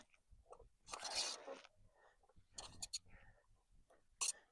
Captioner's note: metal scraping metal